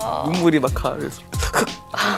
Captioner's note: sniffle TT